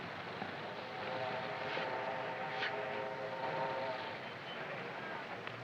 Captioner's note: train horn blaring